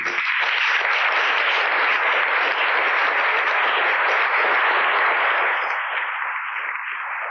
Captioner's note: applause